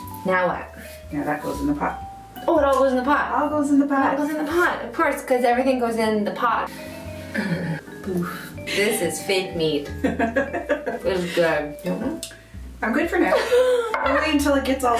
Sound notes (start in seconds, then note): 10.0 laughs